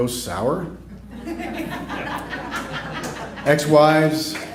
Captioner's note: laughter